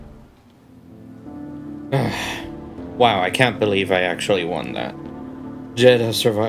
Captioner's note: sigh